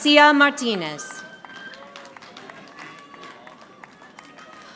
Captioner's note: audience applauding